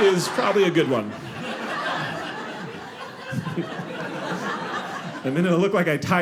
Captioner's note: audience laughing